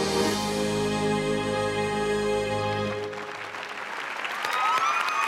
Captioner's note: cheering